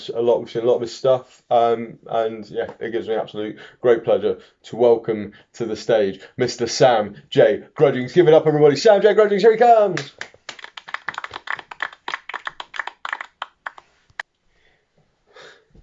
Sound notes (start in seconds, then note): 9.9 some applause